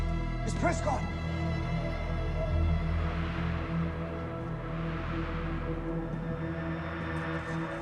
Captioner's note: eerie music; wind whistling